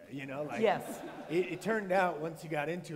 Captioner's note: laughter